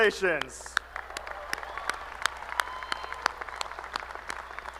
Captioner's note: applause